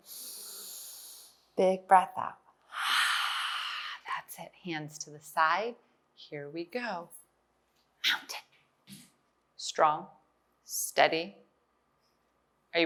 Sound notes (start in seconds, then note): 0.0 inhales; 2.7 exhale